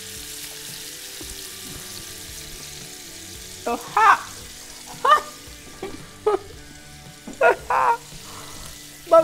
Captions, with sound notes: It's hot. (laughs) It's hot but so good.